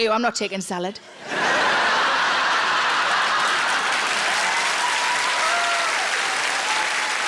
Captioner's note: audience laughing; audience applauding